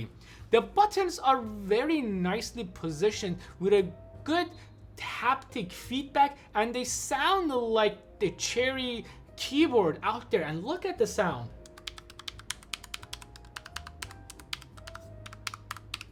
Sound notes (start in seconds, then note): 11.6 keyboard buttons clicking